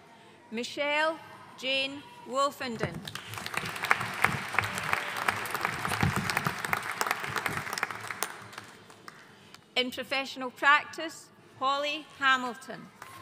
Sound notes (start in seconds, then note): 3.1 audience cheering and applauding